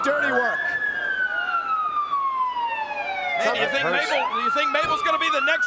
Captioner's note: siren sounding